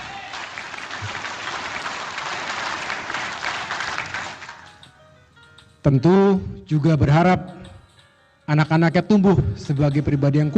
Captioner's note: applause